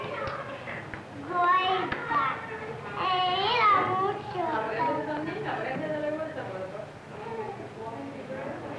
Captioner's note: Spanish speaking